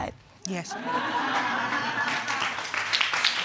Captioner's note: audience laughs; clapping